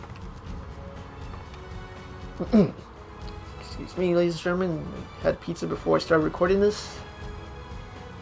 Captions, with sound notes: *clears throat* Excuse me ladies and gentlemen I just had pizza before I started recording this..